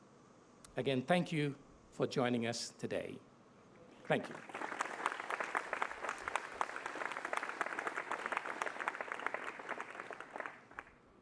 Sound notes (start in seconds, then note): 4.1 applause